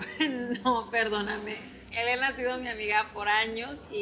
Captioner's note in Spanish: Riendo